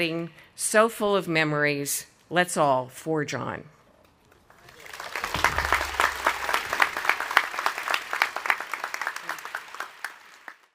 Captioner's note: audience applauding